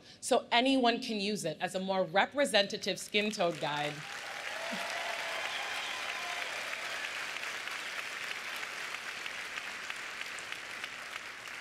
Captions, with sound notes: so anyone can use it as a more representative skin tone guide-- [APPLAUSE]